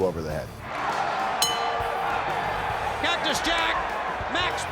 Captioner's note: applause